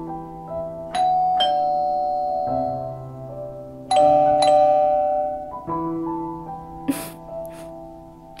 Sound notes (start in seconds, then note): 0.5 calling bell 00:01:28.431